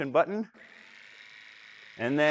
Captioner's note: cutter buzzes